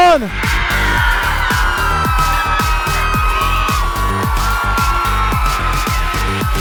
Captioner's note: upbeat music; audience cheering